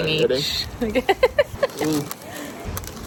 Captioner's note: laughing